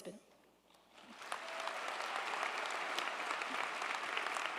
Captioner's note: crowd applauding